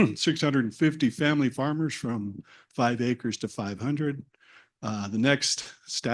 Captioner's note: cough